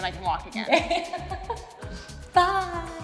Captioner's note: laughs